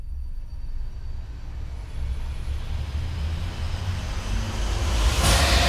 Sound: growing sound

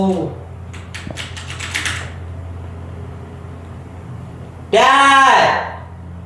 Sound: keyboard clicking

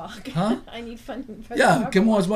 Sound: voiceover

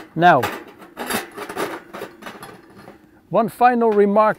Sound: stove's lid clinking

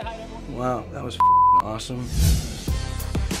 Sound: beep

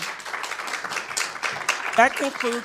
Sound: attendees applauding

